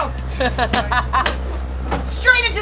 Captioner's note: laughing